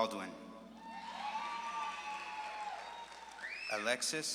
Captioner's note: audience claps and cheers